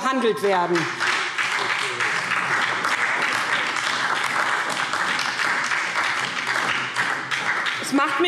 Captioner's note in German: Beifall SPD und DIE LINKE